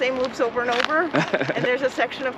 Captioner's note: laughs